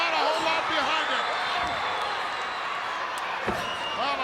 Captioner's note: crowd cheering